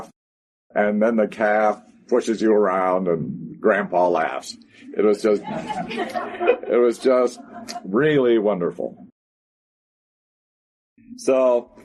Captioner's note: laughter